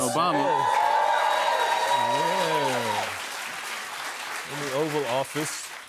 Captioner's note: cheers and applause